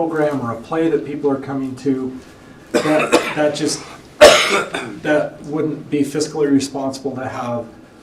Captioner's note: cough; clears throat